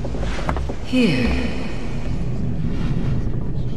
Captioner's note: motherly Voice